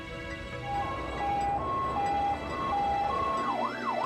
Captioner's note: siren wailing